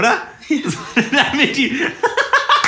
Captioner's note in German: Lacher